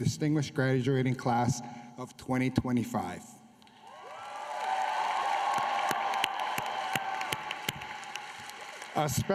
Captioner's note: applause